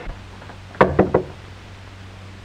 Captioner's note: knocks on door